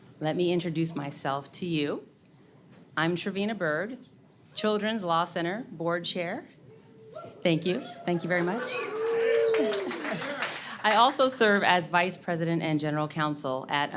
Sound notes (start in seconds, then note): 7.8 audience cheers